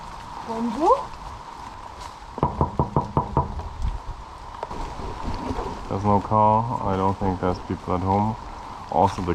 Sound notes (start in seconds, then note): 2.4 knocking window